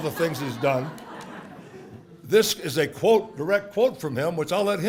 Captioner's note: laugh